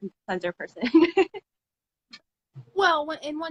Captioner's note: laughs